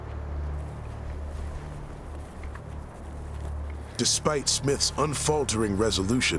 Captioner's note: tense music; footsteps